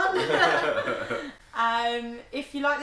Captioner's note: both laugh